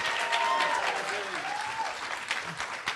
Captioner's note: applause